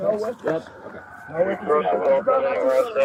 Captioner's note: radio chatter